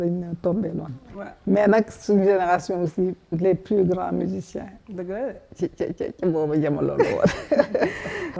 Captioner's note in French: rires